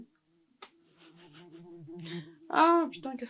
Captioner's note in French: bruit de guêpe